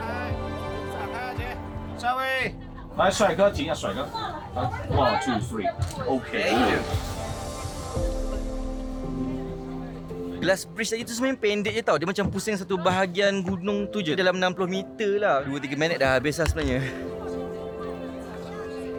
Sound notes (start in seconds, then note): 2.0 speaking Chinese